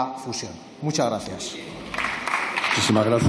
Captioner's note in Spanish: Aplausos.-Un señor diputado: ¡Muy bien!